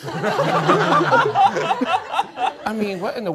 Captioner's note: all laughing